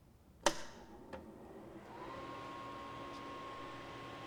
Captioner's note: click; whirring sound of amplifier fan